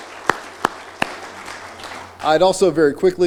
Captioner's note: applause